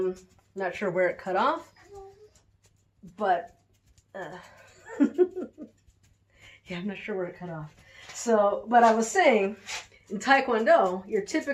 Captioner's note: laughing